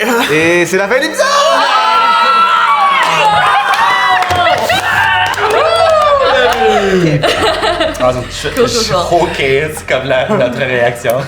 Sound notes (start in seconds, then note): 1.1 group shouts; 6.2 laughter